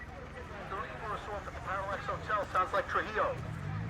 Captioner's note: officer on radio